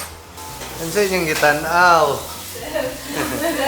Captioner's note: speaks in Bisaya